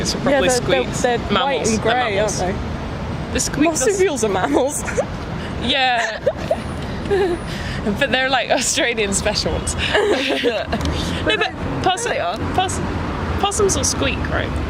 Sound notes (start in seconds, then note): 5.9 laughs